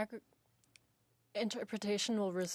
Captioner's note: speaking in French